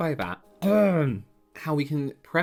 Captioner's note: cough